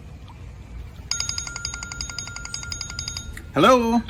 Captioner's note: phone ringing